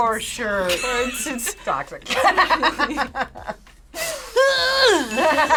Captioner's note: laughs